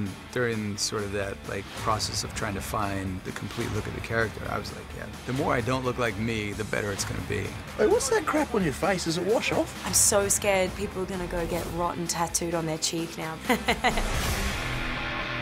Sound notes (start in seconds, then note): 13.4 laugнs